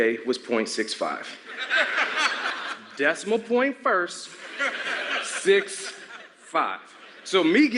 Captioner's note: laughter